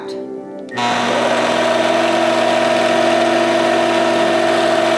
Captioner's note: machine whirring